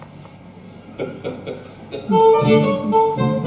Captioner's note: Molokov laughs